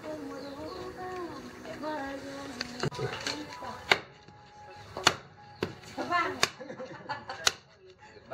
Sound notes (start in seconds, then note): 4.9 chopping; 6.6 woman laughing